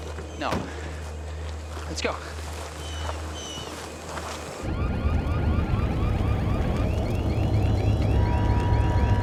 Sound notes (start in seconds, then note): 4.6 sirens blaring